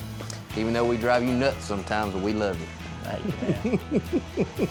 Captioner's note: chuckles